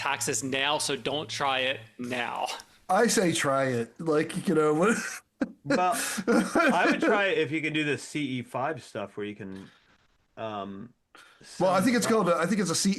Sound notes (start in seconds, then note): 4.8 laughs